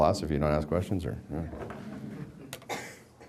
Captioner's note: background laughter